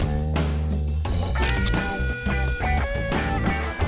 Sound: sound of photo snapping

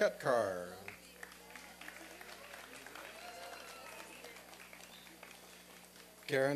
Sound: applause and cheering

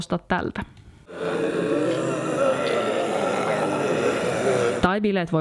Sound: zombie growls and screams

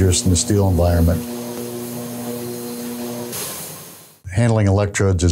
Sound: electricity hissing continues

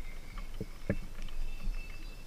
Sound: boat sounds

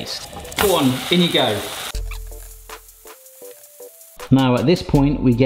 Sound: pan sizzles

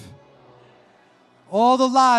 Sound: congregation repeating

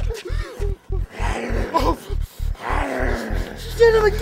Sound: zombie growls

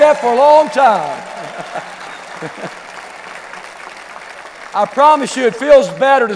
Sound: clapping and cheering

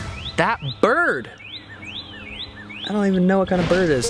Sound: chirping

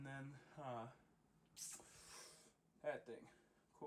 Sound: sigh of depression 1

